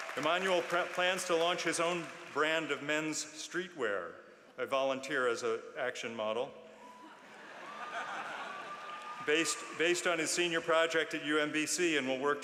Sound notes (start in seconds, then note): 0.0 applause; 7.1 laughter